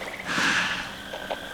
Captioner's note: inhales